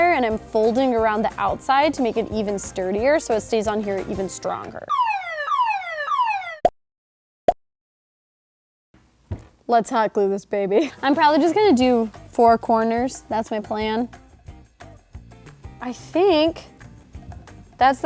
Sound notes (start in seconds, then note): 4.8 sirens blaring